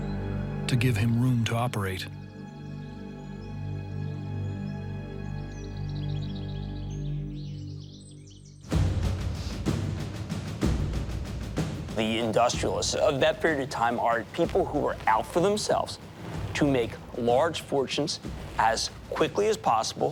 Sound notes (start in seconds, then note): 4.5 birds chirping; 7.9 dramatic music